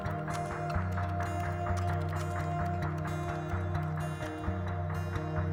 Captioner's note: typing continues